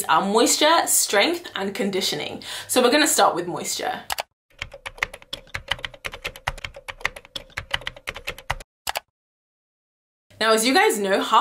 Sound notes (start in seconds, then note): 4.5 keyboard typing